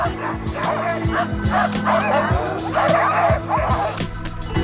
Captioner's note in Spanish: Perros Ladrando